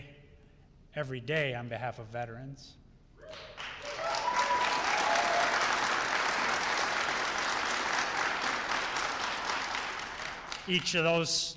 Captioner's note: applause and Cheers